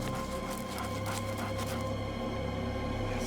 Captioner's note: panting